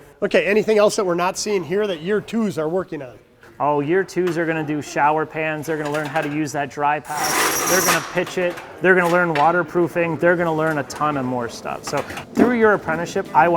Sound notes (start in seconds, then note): 7.0 cutter whirring